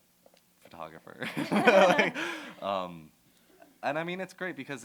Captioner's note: laughter